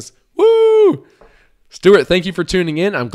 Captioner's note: hooting